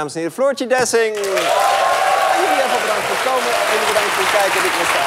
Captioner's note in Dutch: applaus